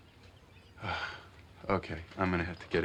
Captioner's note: sighs